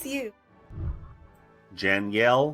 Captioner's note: whooshing